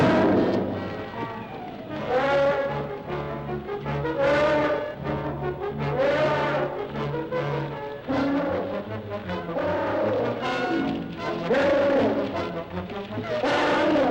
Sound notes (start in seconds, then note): 1.8 dramatic music; 1.8 mammoth trumpeting